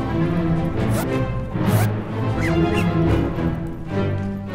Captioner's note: bags zip